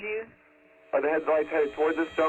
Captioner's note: on phone